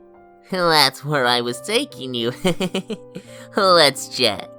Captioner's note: chuckles